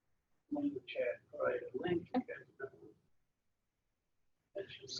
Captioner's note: speaking away from mike